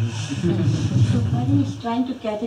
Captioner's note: laughter